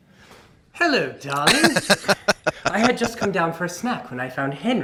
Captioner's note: laughing